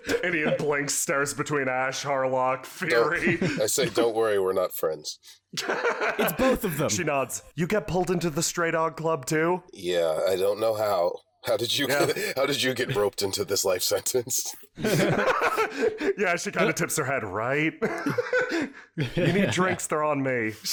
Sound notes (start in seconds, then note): 5.6 is once again amused; 14.7 laughter; 17.7 laughs; 17.8 chuckles